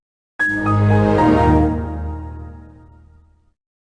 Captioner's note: Windows XP Shutdown